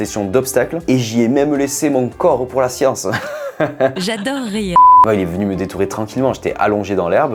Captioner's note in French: rires